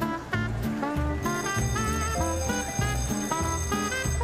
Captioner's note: jackpot bell rings